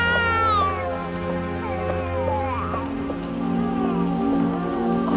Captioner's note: baby crying